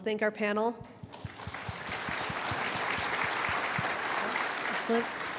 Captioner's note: audience applauds